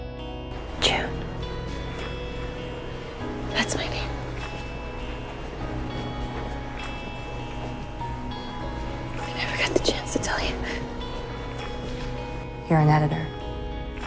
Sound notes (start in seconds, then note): 0.9 voiceover; 1.2 whispering